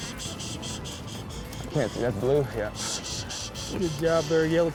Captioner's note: makes shushing sound